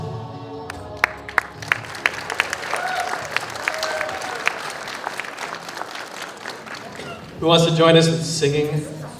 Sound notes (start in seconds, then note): 6.8 applause